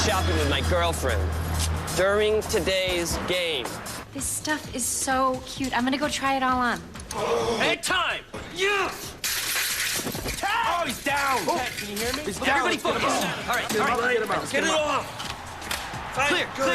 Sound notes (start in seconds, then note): 9.2 crashing